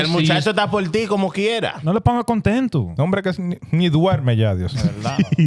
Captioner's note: speaking In Foreign Language